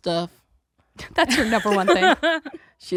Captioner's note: laughs